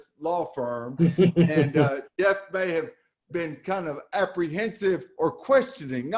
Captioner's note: laughs